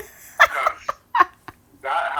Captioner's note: laughter